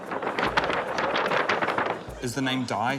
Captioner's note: paper wub-wubs